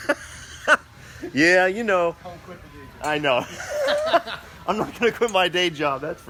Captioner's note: laughing; laughing